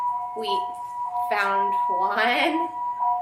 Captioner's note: sirens